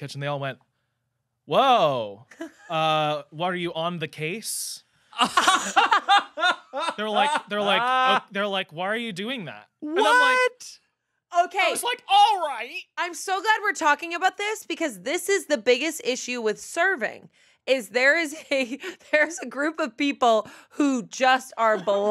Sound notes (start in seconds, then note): 5.1 laughing